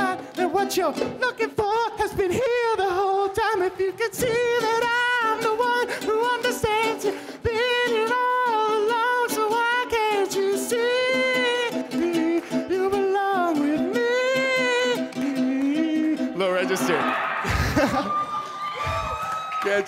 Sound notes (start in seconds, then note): 16.4 audience cheers; 16.7 laughs